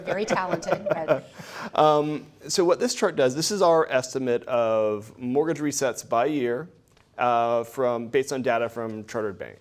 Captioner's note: laughs